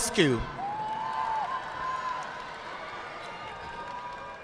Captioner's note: audience clapping